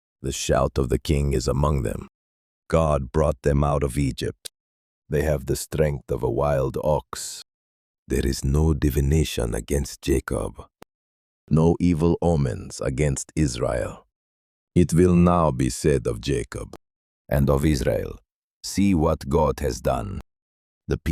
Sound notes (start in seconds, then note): 7.5 whispering; 14.1 thoughtful